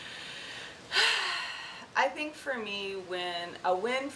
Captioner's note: sighs